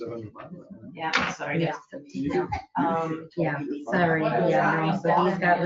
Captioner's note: overlapping chatter